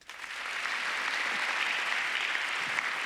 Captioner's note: applauding